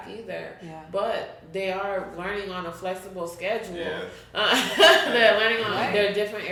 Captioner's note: chuckles